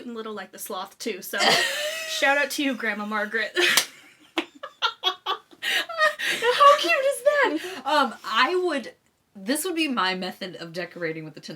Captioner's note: laughing very hard